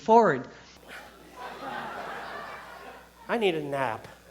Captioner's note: audience laughs